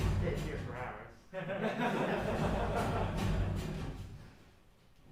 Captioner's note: laughing; drumming, dramatic music